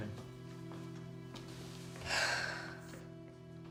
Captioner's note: sighs